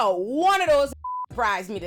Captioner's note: beep